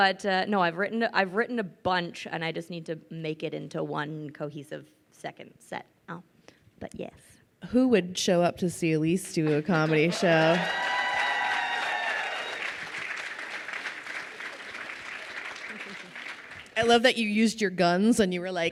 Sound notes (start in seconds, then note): 9.8 crowd cheering and applauding